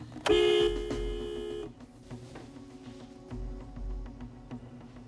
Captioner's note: car horn honks; suspenseful music